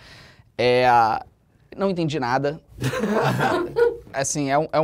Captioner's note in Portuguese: risadas